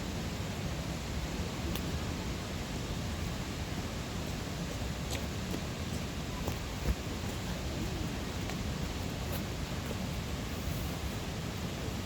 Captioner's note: fire crackles, sound of footsteps in the snow, and the rushing water